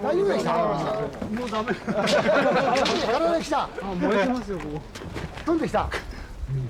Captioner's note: laughter